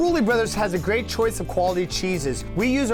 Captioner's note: male Voice